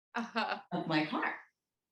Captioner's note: laughs